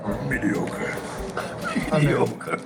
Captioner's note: amused laughter; Impersonating Immortan Joe from Mad Max: Fury Road